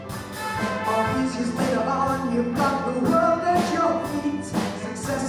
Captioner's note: none